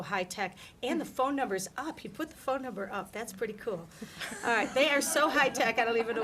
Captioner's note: laughter